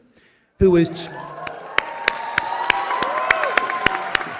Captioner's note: cheering